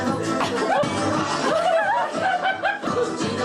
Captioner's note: music, singing; laughter